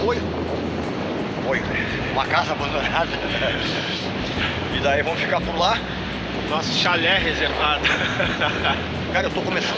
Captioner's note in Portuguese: risadas